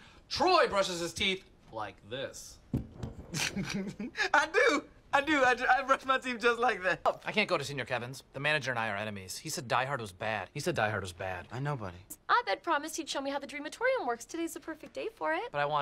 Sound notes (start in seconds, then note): 3.3 TROY laughs